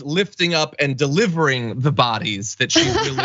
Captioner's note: laugh